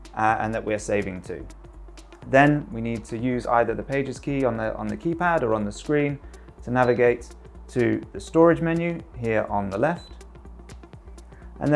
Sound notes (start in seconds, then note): 6.8 screen beeps; 9.9 screen beeps